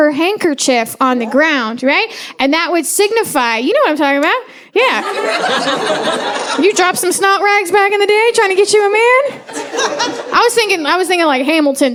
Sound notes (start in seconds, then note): 4.9 audience laughing